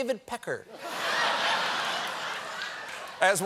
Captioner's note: laughter